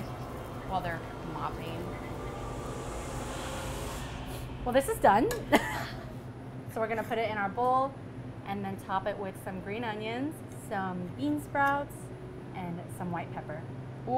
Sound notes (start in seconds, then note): 2.8 ominous music; 6.1 laughs